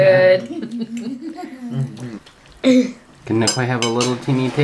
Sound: laughing

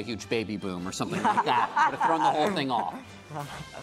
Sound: laughing

